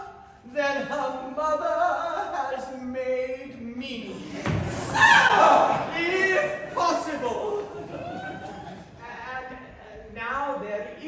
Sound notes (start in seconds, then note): 7.5 laughter